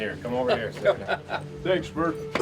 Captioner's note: laughs